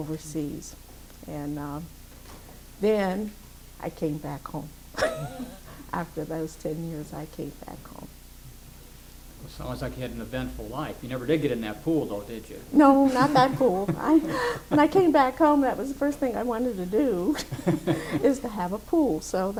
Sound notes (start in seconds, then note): 5.0 laughs; 12.8 laughs